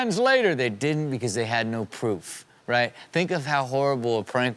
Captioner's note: normal voice